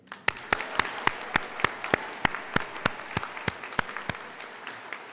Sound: audience applauding

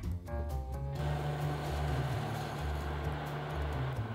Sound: simmering

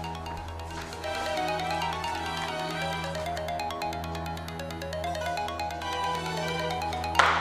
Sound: mobile ringing-Touran

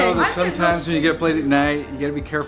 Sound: speaking faintly

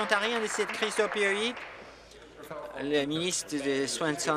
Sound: applause

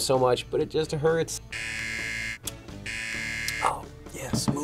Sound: buzzer

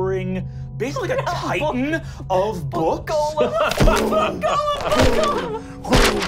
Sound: booming

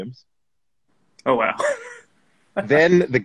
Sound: laughs

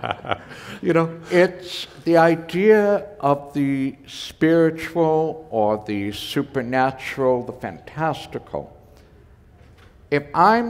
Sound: chuckle

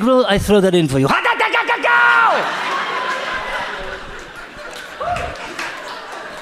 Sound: yelling in foreign language

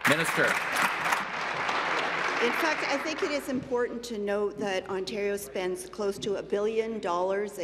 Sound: applause

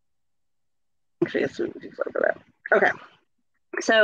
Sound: speaks faintly

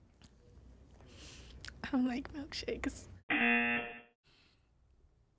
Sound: buzzer; silence

